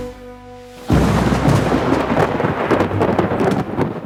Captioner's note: epic Music; the sound of thunder